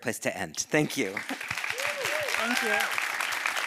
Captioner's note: audience applauding; audience cheering